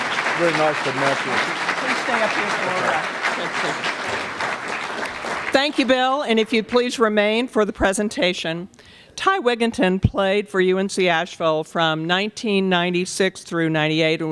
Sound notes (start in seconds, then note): 0.0 applause